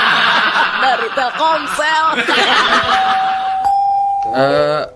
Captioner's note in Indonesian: tertawa